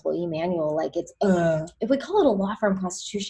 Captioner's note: groans